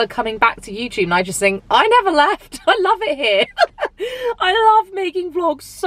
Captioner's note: laughs